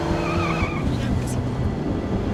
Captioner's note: Alejandra mutters